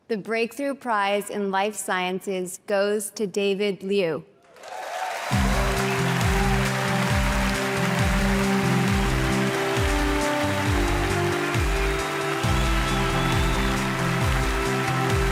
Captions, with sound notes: - The breakthrough prize in life sciences goes to David Liu. (audience applauding) (inspirational music)